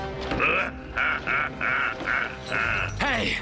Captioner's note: laughs evilly